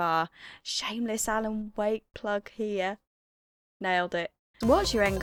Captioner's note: whispers